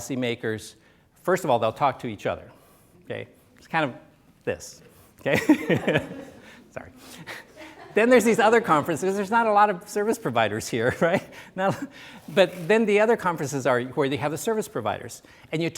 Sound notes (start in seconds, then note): 5.3 laughter; 5.3 laughs; 7.2 laughter